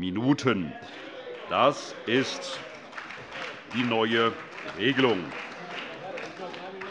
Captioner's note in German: Vereinzelt Beifall SPD, AfD und Freie Demokraten